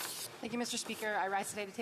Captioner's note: speaking French